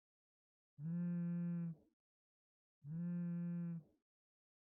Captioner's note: phone vibrating